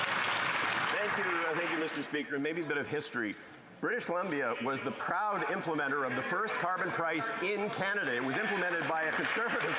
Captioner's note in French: applaudissements; voix de l'interprète